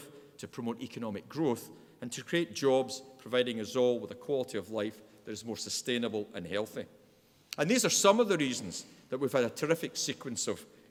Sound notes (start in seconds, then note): none